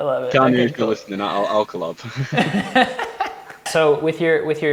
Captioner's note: both laughing